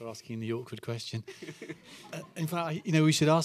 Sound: laughter

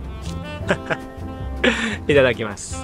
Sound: chuckles

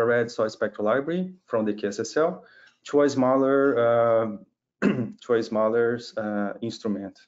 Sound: clears throat

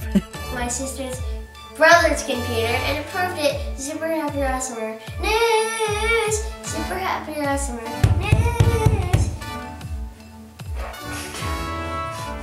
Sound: knock, knock, knock

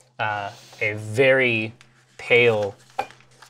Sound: none

